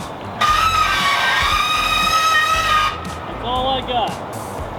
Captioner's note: winch screeching